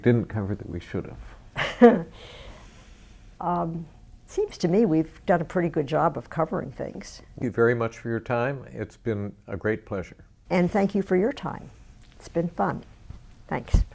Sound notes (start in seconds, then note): 1.6 laughs